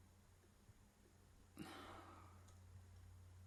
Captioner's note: she sighs